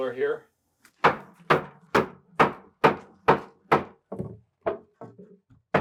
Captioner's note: hammer knocking